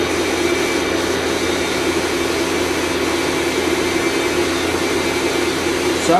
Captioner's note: machine whirs smoothly